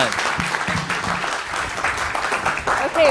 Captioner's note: applause